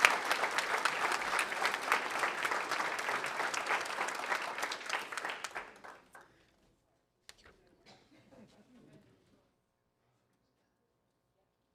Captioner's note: applause